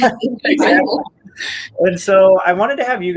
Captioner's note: all laugh